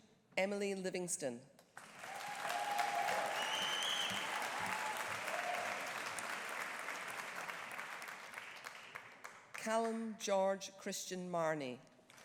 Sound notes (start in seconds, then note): 1.8 audience applauding; 1.9 audience cheering